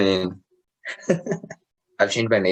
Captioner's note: laugh